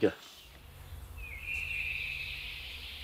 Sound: birds chirping

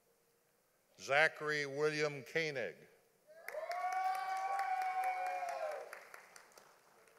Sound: audience applauding

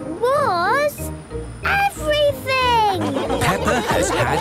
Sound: laughing

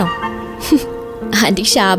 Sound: chuckling

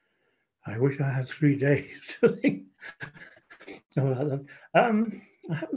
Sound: chuckling

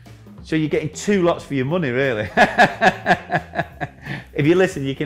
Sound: laughs

